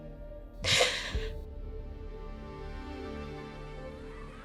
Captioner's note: slow orchestral music continues; Anya cries